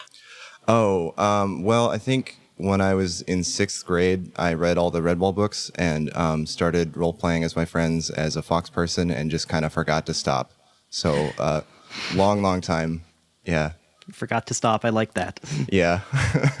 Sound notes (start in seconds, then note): 11.0 laughs